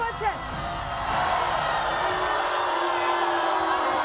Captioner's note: audience boos